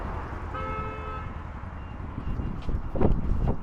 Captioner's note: car hooting